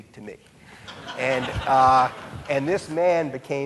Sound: audience laughing

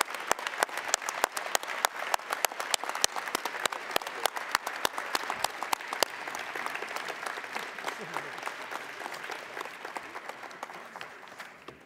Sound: cheering and applause

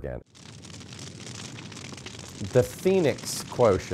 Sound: fire crackling

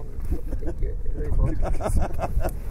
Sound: spiteful laughter

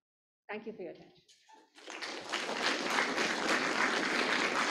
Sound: applause

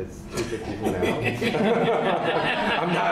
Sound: laughter

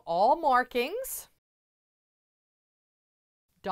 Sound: no Sound Present

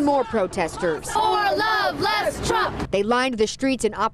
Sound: crowd noise

